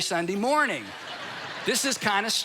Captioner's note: congregation laughs